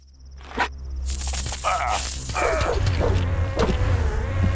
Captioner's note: the hissing of bloodflies; the sound of dying bloodflies